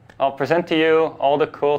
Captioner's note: none